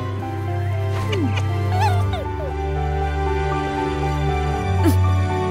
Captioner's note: uplifting music continues; Golden Fox squeaks; Princess Oren puffs